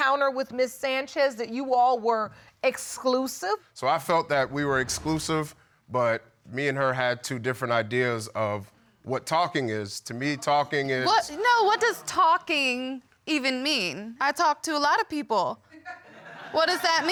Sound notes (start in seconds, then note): 11.2 audience laughing